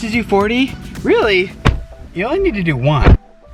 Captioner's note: thunks